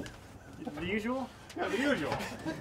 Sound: laughing

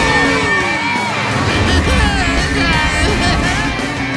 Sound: groaning

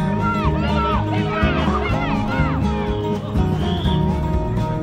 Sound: children chatter

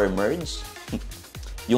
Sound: scoffs

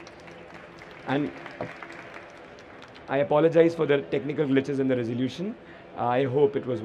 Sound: applause

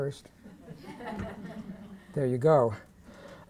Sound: laughter

